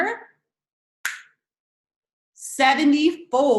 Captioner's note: snaps fingers